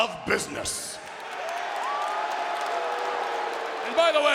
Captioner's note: audience cheering